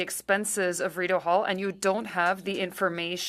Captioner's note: speaking french